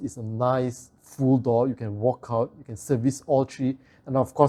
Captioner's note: aircon compressors